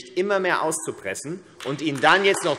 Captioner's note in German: Beifall AfD